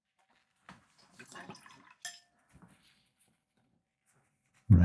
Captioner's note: silence